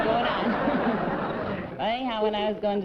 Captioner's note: laughter